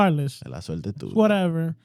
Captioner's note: speaking In Foreign Language